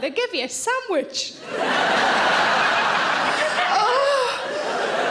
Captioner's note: audience laughing